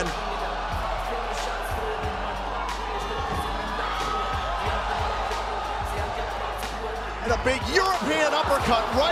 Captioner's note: crowd chatter